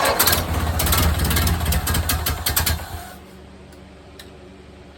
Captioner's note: engine cranking; engine sputtering/idling; engine dies